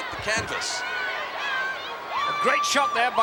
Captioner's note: audience chattering